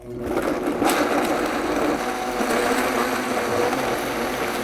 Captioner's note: blender whirring